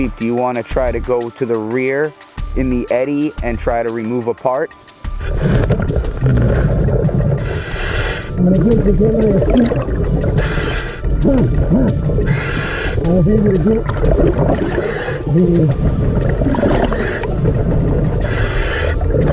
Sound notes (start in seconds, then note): 5.5 water bubbles blowing; 14.7 water bubble blowing